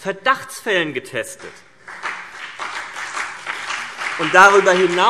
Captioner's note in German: Beifall CDU und BÜNDNIS 90/DIE GRÜNEN